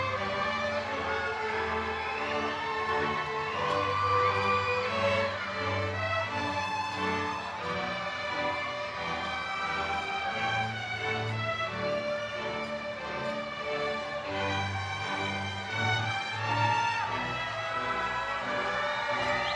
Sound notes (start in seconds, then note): 3.1 crowd cheering